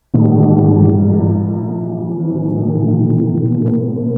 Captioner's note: black hole groaning